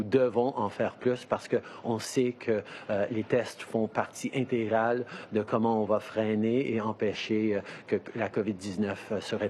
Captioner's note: speaking in French